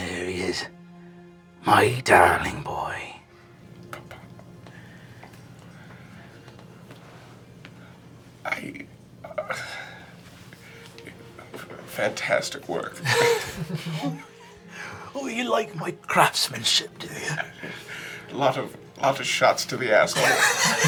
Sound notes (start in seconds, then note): 13.0 everyone laughing